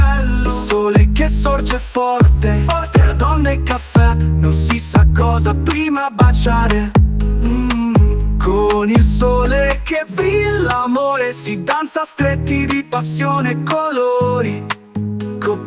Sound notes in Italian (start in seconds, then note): 6.2 mmm